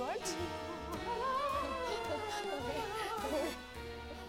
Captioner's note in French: Elle chantonne